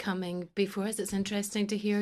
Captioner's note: speaking French